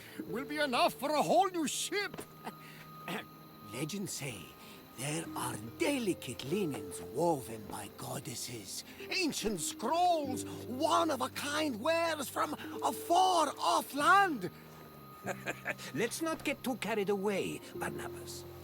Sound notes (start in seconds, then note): 2.3 laugh; 3.0 clears throat; 15.2 laughs